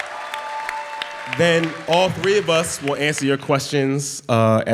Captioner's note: applause